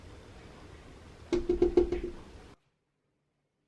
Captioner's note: knocking again